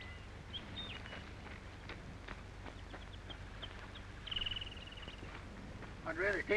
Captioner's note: birds chirping